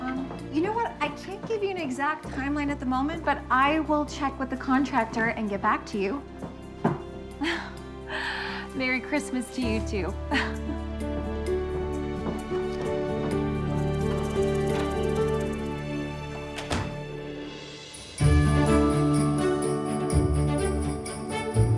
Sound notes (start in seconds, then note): 7.4 chuckling; 16.2 door closing